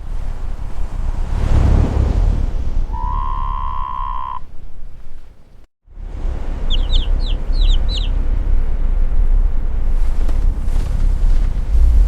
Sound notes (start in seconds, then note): 2.9 classic Creature noise; 6.6 bird Twittering